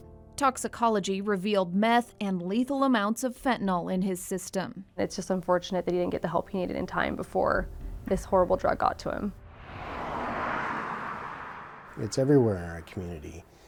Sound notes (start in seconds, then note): 9.3 traffic whooshes